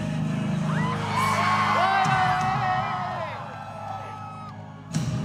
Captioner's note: cheering